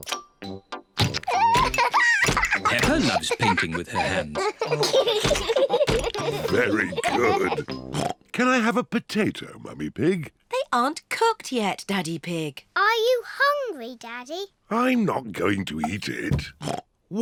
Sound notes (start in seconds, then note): 1.2 laughs; 4.8 both laugh